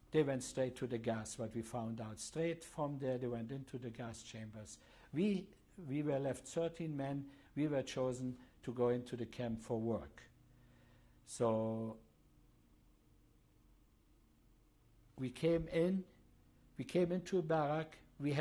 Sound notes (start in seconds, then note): 11.6 pauses for 3 seconds